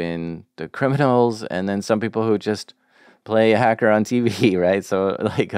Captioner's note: laughs